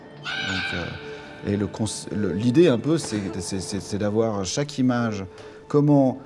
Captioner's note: in french